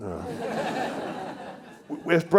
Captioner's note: attendees laughing